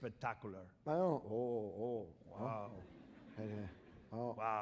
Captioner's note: speaking spanish